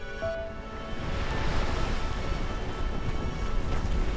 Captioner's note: waves rumble